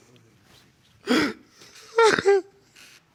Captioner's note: murmuring; crying